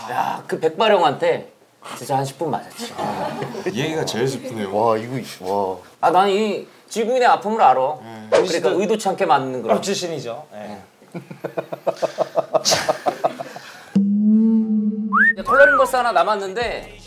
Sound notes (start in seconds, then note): 11.1 laughing